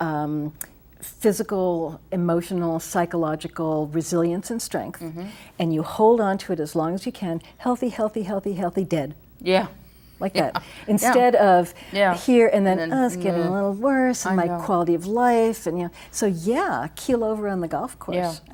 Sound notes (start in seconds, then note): 11.1 chuckles